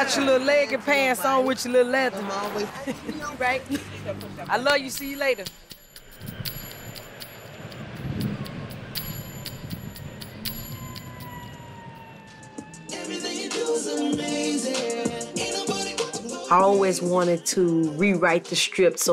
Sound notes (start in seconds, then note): 6.6 compelling music; 12.0 siren sounding